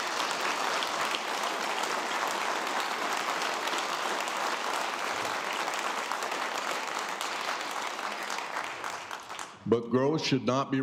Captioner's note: applause